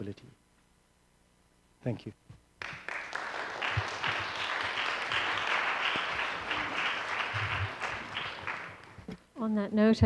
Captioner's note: applause